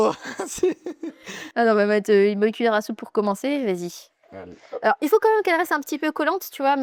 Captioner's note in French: rires